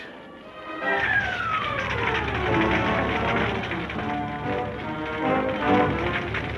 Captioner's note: exciting orchestra music; fire crackling